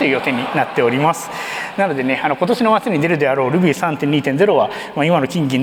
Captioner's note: laughter